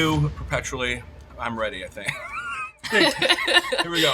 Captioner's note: chuckling; laughing